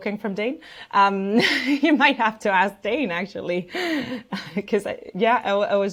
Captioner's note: laughs